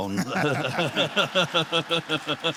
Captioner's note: laughter and applause